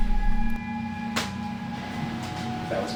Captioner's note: floorboard creaking